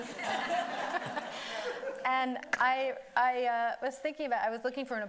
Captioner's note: everybody laughing